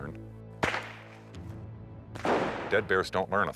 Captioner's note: gun blasting; device exploding